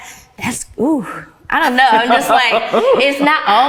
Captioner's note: ladies laughing